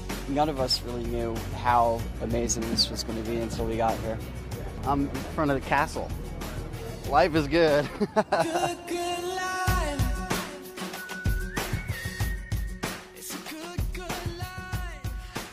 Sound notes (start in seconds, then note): 7.8 laugh